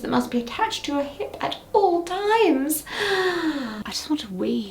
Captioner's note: inhales deeply